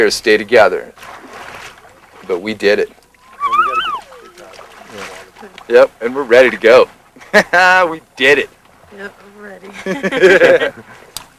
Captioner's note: laughter